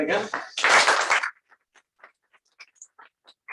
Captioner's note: applause